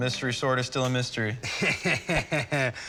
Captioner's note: chuckling